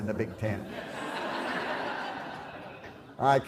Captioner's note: laughter